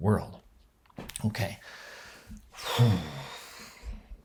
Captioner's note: sighs